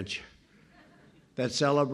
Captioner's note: laughter